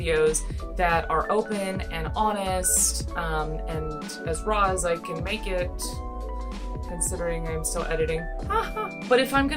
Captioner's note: laugh